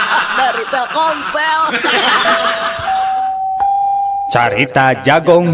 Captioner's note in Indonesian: tertawa